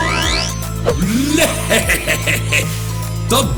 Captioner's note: laughs